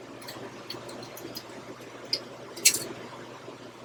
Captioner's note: cap rattles